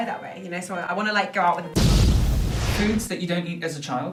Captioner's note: explosion sound